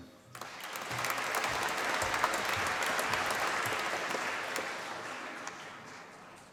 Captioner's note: applause